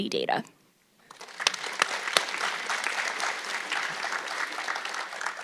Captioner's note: audience clapping